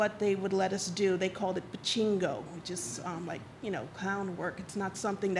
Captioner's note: speaks Spanish